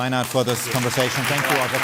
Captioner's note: applause